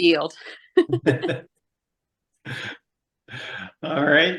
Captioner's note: laughing